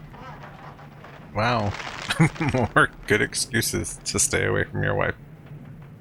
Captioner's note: chuckling